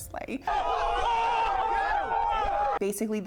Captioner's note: crowd shouting